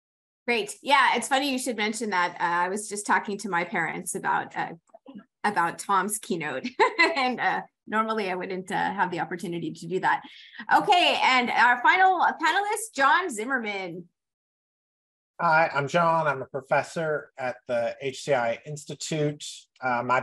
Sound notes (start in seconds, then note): 6.7 laughs